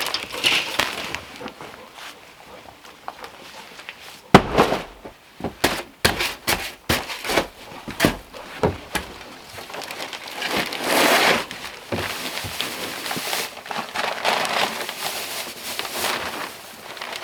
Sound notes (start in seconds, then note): 4.3 thuds; 6.0 smacking